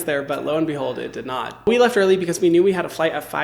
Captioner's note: none